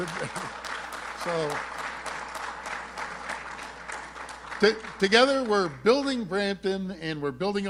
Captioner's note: applause